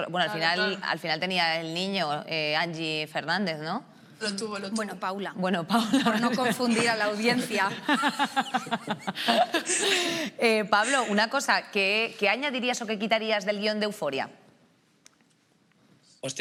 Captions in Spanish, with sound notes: Bueno, al final, tenía el niño Angie Fernández, ¿no? Lo tuvo, lo tuvo. -Bueno, Paula. Bueno, Paula. Por no confundir a la audiencia. (ALGUNOS RÍEN) Pablo, una cosa. ¿Qué añadirías o qué quitarías del guión de "Euphoria"?